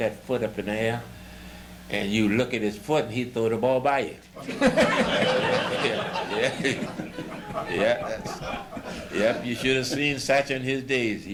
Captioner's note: laughter